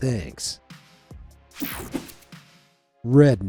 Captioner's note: screen whooshing